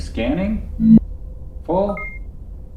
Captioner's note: device whirring; device beeping